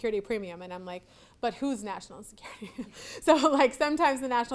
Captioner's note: laughs